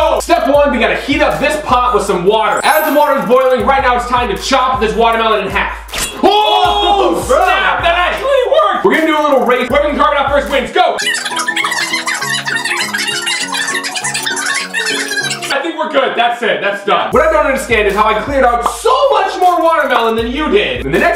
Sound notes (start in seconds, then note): 5.8 knife slices; 12.9 cheerful piano music